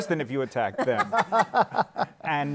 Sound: laughter

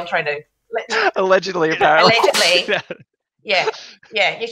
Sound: laughing

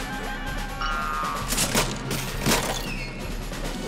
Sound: ka-ching

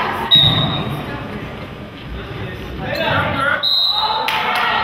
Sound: whistle blows

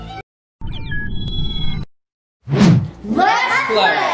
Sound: electronic beeping

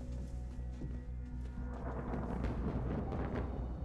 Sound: thunder rumbling

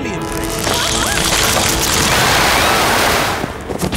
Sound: screams

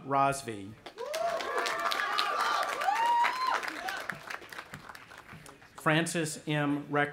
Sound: audience applauding and cheering

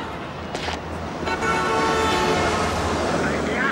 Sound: car horn blaring

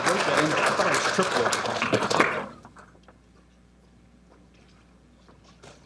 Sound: speech drowned out by applause

